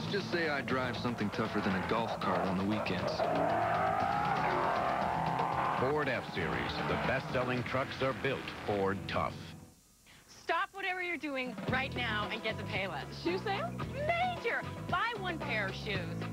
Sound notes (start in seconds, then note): 3.9 revving